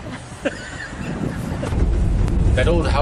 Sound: laughter

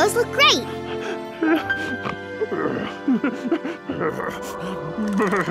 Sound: shivering

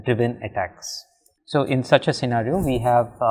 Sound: collision

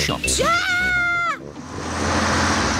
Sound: shrieks

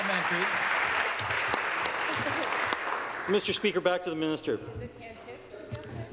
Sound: applause

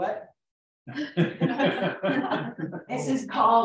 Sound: laughter

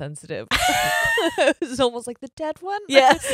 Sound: both laugh

